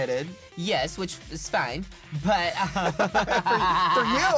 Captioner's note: laughs